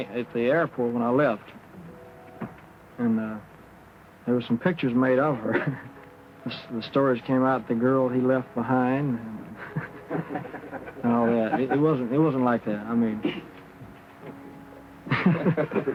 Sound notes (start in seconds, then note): 9.5 laughing; 14.7 laughing